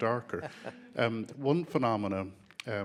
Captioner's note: chuckling